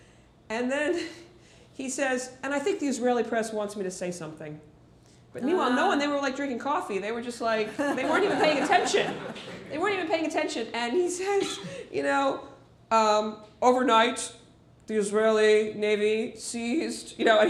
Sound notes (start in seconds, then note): 7.7 laughter